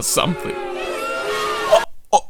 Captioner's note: audience booing